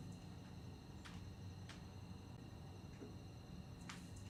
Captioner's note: mechanism whirring